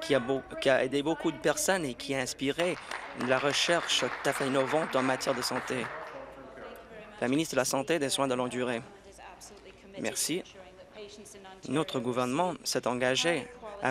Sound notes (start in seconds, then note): 5.8 applause